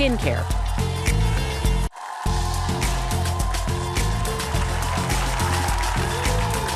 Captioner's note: audience applauding